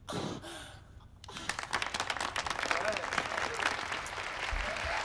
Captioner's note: audience applauding